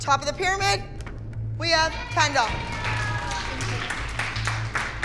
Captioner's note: cheering